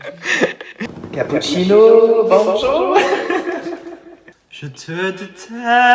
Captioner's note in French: rire